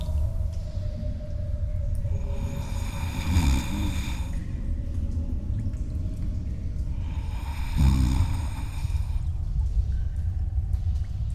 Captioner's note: cave noises; Blurg snoring; cave noises